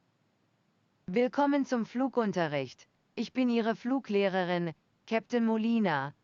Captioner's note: speaking in a foreign language